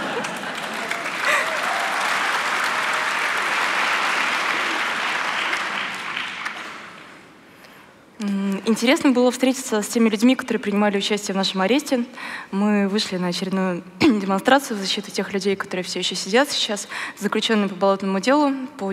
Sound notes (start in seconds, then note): 0.0 applause; 7.1 foreign Language